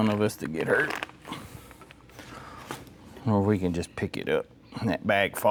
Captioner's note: breathing Heavily